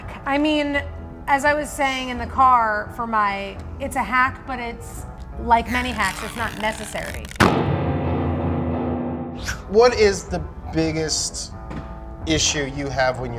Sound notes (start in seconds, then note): 7.4 startling sound effect